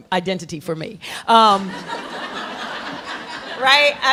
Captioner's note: laughter